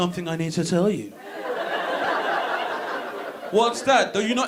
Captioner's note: audience laughing